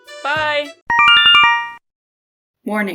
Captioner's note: Yume Nikki instructions sound